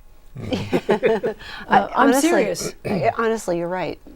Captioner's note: laughing